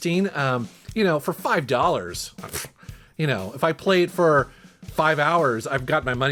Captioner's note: scoffs